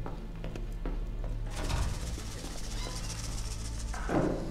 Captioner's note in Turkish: Müzik - Gerilim; Kapı açılma sesi; Kapı gıcırdama sesi; Kapı kapanma sesi